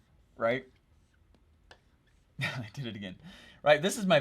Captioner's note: chuckles